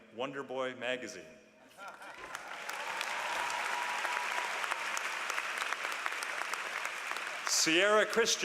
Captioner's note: applause